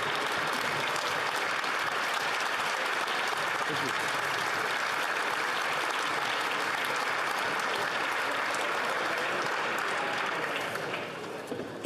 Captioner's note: applause